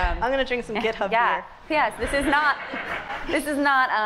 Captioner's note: laughs